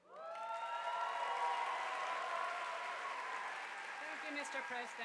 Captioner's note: audience applauding